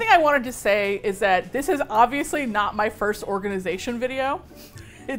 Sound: laughs

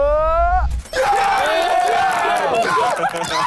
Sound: cheering

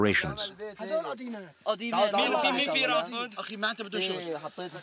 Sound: Arabic spoken audio

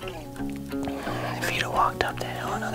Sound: whispering

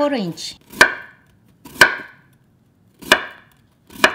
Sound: chopping

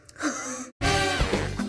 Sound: laughing; lively music

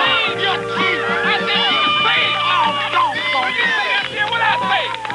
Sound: cheering

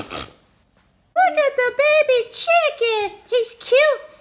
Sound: voiceover

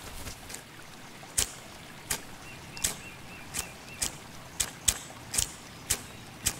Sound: flint and steel sparking

